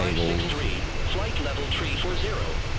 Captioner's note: radio chatter